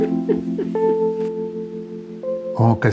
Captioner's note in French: Elle rit